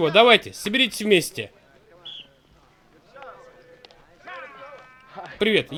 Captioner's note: whistle blows